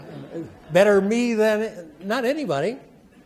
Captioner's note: attendees laugh